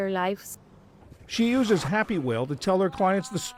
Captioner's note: voice-over